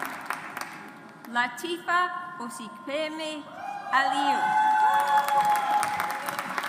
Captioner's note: audience applauds